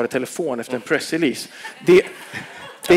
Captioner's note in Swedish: skratt